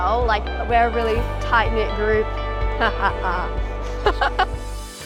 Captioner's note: team laughs; haha